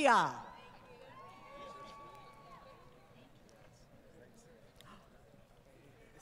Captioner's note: applause